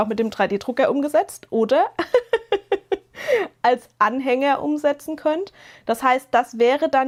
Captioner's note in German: gelächter